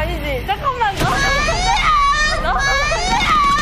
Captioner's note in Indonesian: It's slowly moving... / Creaking